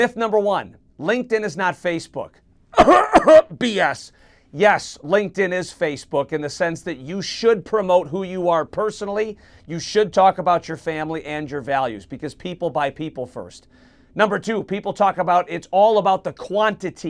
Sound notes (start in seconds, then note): 2.7 cough cough